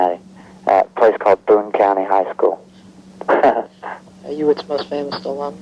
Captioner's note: laughing